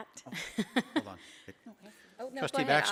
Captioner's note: laughing